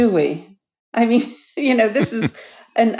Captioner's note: laughs